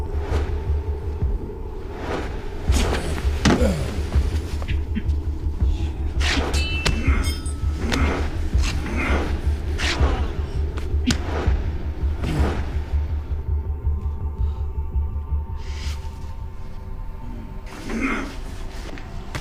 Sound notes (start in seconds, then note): 0.2 whooshing; 2.6 thudding; 6.2 metal clinking